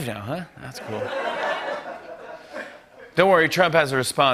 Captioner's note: laughter